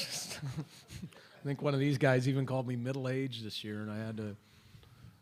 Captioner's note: laughter